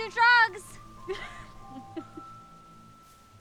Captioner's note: laughs